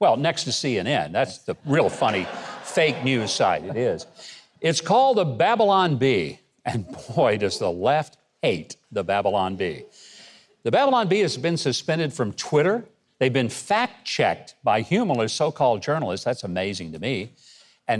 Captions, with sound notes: Well, next to CNN. That's the real funny (audience laughs) fake news site. It is. It's called the Babylon Bee, and boy, does the left hate the Babylon Bee. The Babylon Bee has been suspended from Twitter. They've been fact checked by humorous so-called journalists. That's amazing to me.